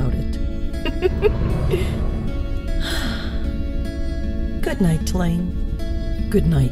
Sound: giggle, sigh

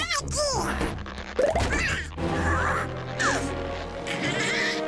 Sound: popping; groaning

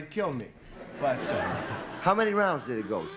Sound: laughter

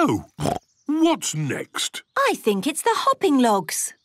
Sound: snorts

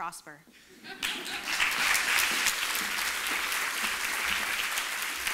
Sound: applause

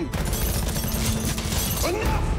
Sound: gun fire

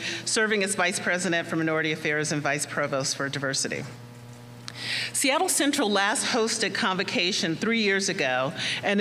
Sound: none

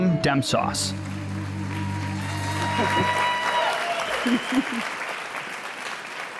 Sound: audience cheers and applauds

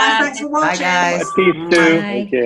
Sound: lips smacking

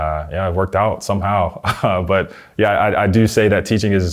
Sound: laughing

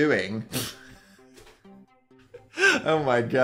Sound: Dan laughs

